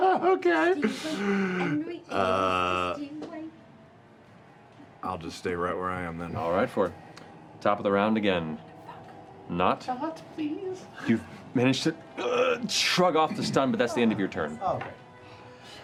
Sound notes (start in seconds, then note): 1.0 high pitched laugh; 12.2 grunt